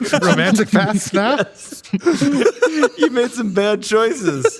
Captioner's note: everyone laughing